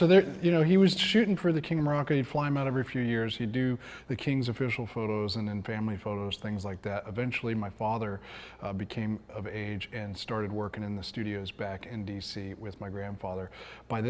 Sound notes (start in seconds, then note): none